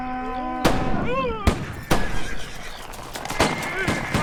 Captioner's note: gunshots